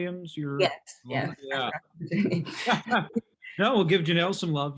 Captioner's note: laugh